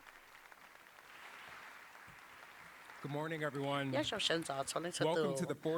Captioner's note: applause